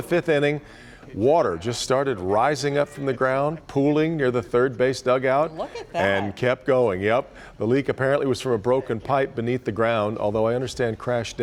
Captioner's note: laughter